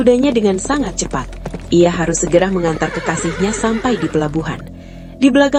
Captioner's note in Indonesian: tertawa